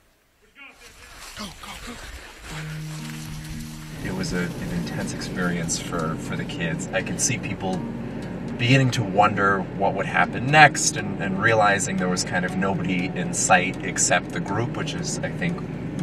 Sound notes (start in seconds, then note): 2.8 breathing heavy; 2.8 shuffling feet